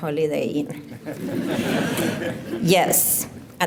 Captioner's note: laughter